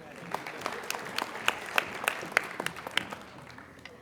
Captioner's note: applauding